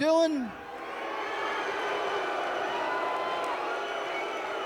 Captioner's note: fans cheering